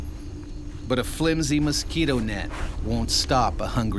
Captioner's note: voiceover